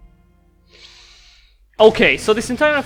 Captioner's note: inhale